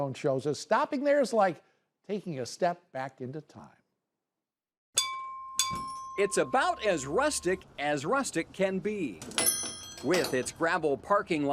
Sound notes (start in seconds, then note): 5.0 double bell ring; 9.3 bell on door